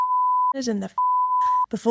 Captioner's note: beep